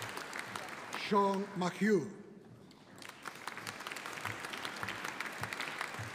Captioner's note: audience applauding